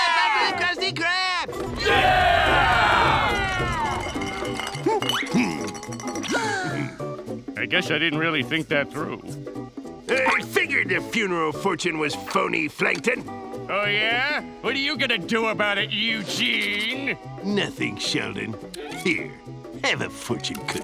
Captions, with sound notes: Back to the Krusty Krab! Yeah! [humming] [sighing] I guess I didn't really think that through. I figured the funeral fortune was phony, Plankton. Oh, yeah?! What are you going to do about it, Eugene? Nothing, Sheldon. Here, have a fortune cookie.